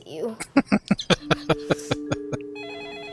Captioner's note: laughing